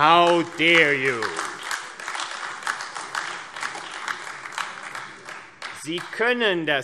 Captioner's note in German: Beifall AfD